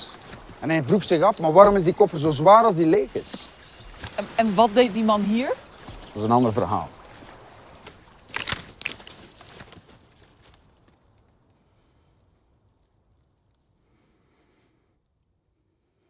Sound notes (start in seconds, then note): 7.7 twig snaps